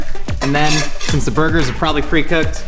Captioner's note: scraping griddle